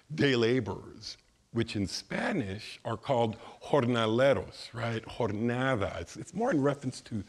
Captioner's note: speaking in foreign language